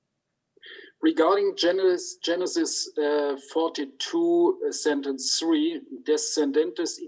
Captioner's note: speaks in Hebrew